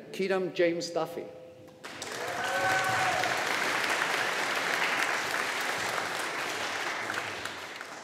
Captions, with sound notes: Kieran James Duffy. (AUDIENCE APPLAUDING)